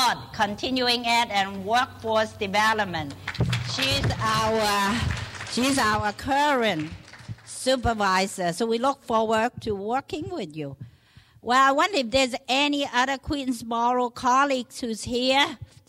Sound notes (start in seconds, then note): 3.0 clapping